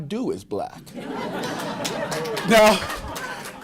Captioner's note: laughter